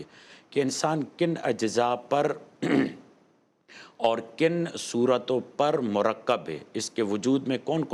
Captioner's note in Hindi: गला साफ़ करने की आवाज़